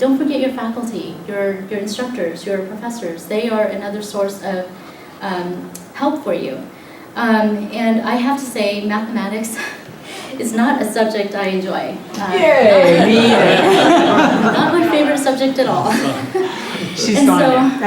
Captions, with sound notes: forget your faculty - your instructors, your professors. They are another source of help for you. And I have to say, mathematics it's not a subject I enjoy - [crowd "yeah - me either!"], not my favorite subject at all.